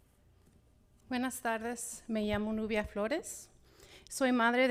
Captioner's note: speaking Spanish